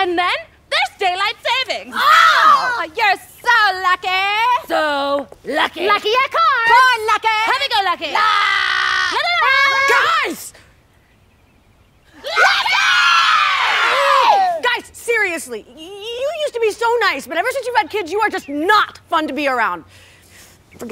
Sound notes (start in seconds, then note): 1.8 both yell; 6.6 all yelling